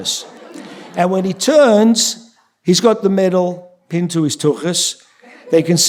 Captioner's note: yiddish; yiddish